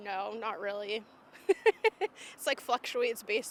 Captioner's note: laughing